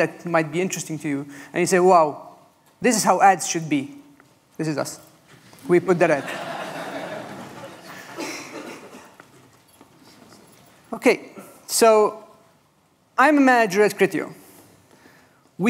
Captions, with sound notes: might be interesting to you, and you say, "Wow. This is how ads should be." This is us. [laughter] We've put that out. I'm a manager at Criteo.